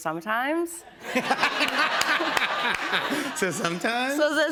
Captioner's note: laughter